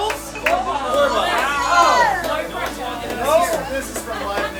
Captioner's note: group chattering